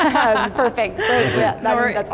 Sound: laughter

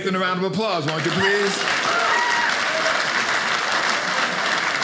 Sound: audience applauding

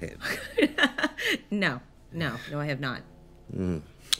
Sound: laughing

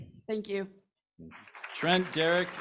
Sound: applause

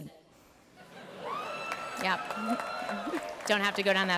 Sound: cheering and applause

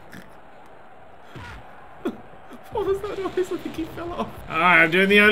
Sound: distant thud

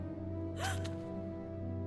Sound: gasp

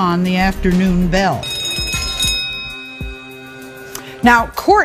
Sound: bell rings

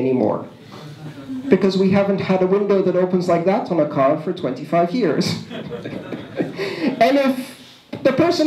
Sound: laughter

